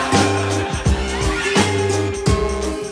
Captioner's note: audience laughing